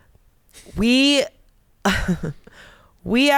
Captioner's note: chuckles